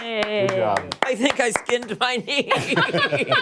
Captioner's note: laughter